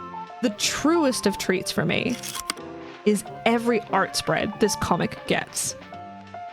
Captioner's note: projector slide click